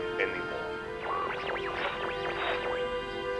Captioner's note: phone beeping and whirring